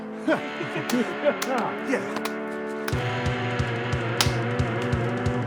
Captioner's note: energetic music; hands slapping; hands slap